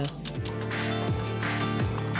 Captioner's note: paper crinkles